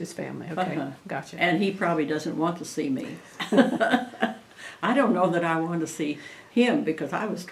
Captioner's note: laughs